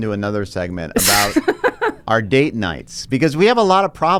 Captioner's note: laughs